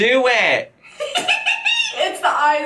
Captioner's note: giggles